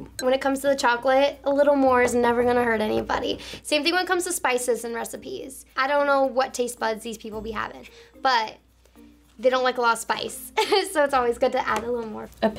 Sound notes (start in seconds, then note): 10.5 laughs